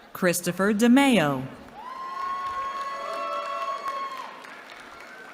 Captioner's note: cheering